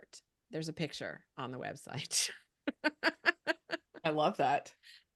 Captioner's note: chuckles